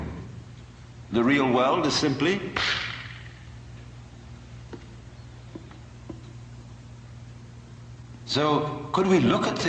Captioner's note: clap